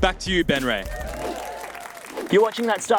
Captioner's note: audience cheering